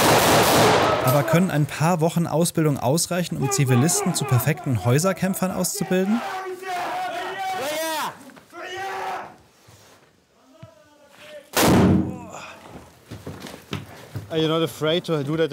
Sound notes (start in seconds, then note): 6.7 shouts; 11.5 bang